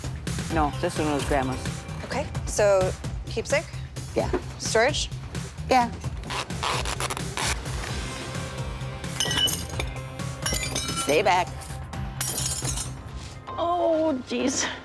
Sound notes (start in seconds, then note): 6.2 tape pulling; 9.1 glass clattering